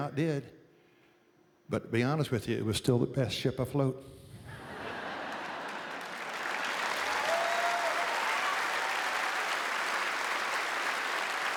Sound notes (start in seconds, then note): 4.4 laughter; 7.0 cheers and applause